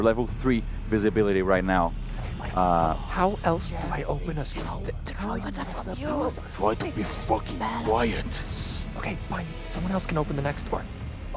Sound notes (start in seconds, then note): 2.1 complaining in whispers